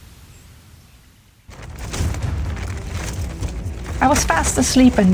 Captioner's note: loud rattling